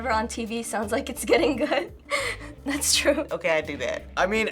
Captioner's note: chuckles